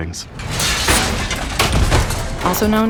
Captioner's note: clanking